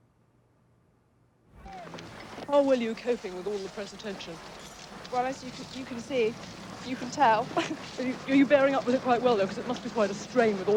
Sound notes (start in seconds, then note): 6.7 laughs